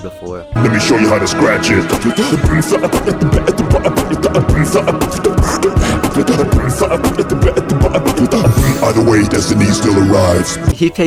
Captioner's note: beatboxing